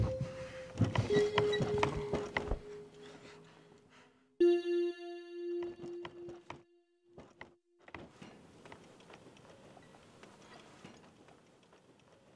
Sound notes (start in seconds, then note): 0.5 door rattling